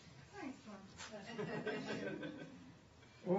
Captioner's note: laughter